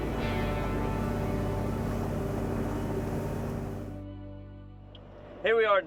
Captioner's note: boat engine revs; soft music